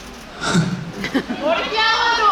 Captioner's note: chuckles